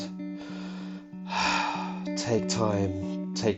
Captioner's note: sigh